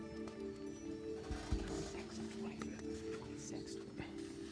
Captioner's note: whispering